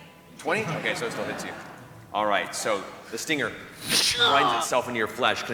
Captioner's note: whipcrack